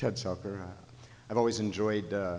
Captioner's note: voiceover